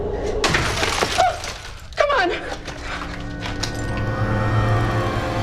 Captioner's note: object crashes; bookcase crashes; dramatic sinister music